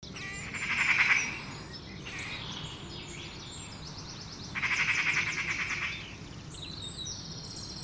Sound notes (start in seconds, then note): 1.9 birds tweet